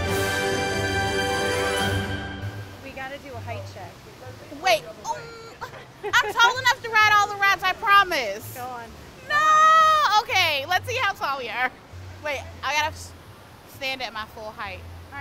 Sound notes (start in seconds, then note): 5.3 groans